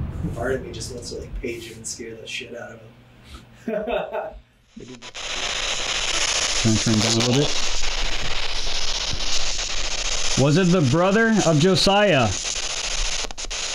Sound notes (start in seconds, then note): 3.6 chuckles; 5.1 static